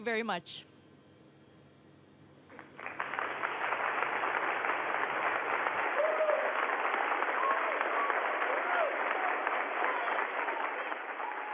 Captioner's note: applause